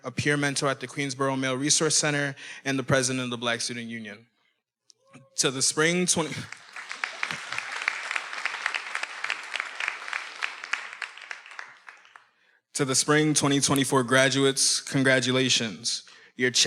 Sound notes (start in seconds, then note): 4.9 attendee cheering; 6.2 everyone applauding